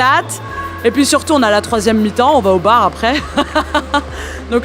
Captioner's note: laughs